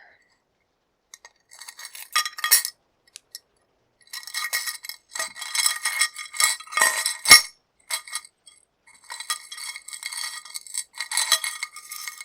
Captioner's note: jewelry clinking